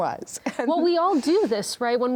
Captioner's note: laughs